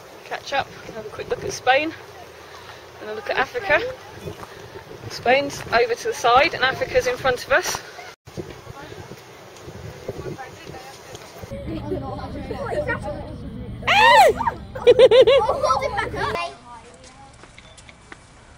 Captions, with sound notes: Catch up and quick look at Spain and a look at Africa Spains over to the side and Africa's in front of us [Cub giggles]